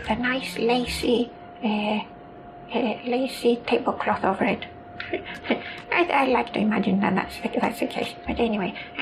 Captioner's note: chuckles